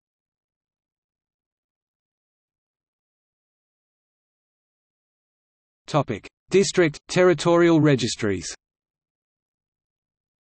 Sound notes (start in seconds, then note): 6.7 in German